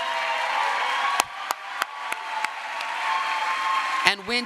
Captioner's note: crowd applause